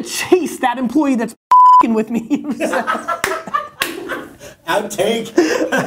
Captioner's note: laughs